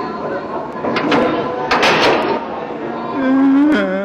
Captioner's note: door shutting